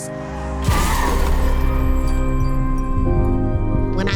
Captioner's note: car swooshing and crashing